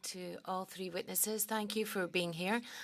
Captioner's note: speaking French